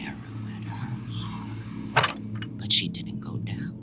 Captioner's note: stone clangs